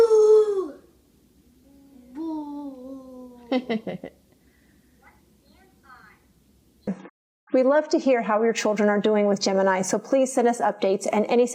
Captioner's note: adult chuckes off-screen